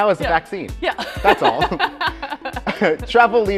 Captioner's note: laughing